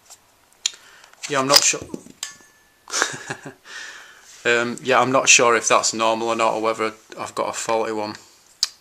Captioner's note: laughs